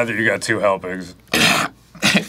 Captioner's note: coughing like a cat with a hairball